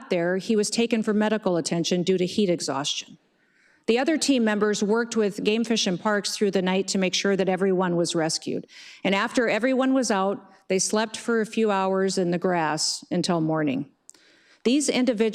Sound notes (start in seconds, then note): none